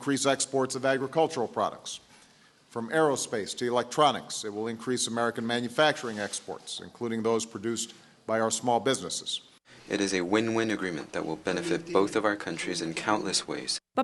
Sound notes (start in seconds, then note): 10.0 through translator